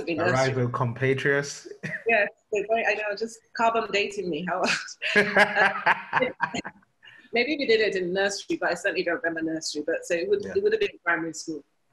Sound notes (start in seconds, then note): 4.6 laughter